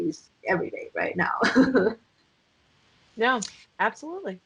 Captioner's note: laughing